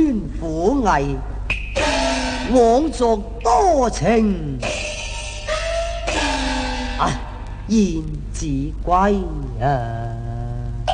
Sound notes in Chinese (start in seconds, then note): 2.0 小生唸白